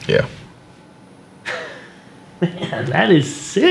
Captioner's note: Wesley laughs